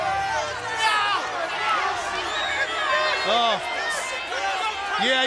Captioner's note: crowd chatter